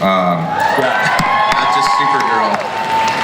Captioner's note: audience cheers